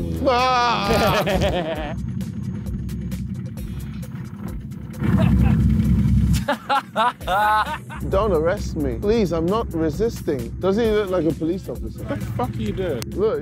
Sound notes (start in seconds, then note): 0.2 screaming; 2.1 laughing; 4.8 body hitting snow; 6.3 laughing